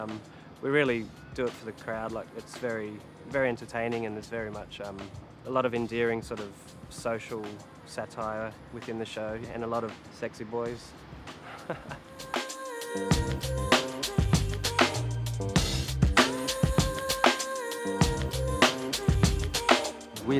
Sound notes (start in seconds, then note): 11.4 laughs